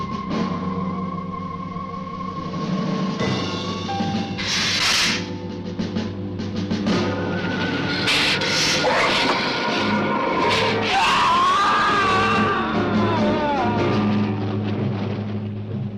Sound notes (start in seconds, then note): 4.4 lizard hissing; 10.6 man screaming